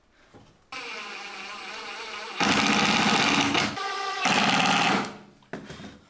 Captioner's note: drilling